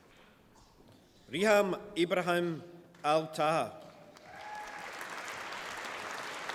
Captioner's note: applause